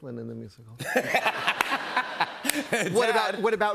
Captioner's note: laughter